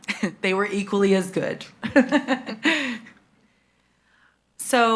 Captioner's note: laughs